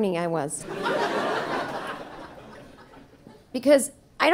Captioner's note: audience laughing